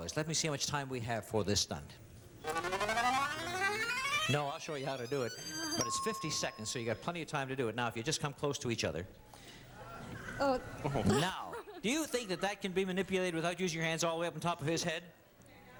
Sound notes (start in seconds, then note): 5.8 bell dings; 10.9 chuckles